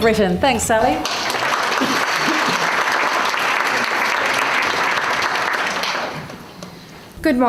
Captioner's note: audience applause